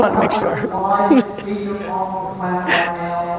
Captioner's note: laughing